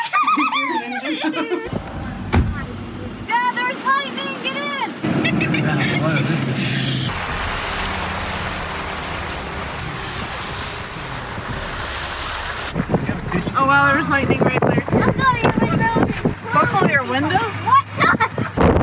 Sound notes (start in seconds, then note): 0.0 child 1 laughing; 1.7 car door thuds; 5.1 child 3 laughs; 7.4 water splashing; 18.6 wind whooshing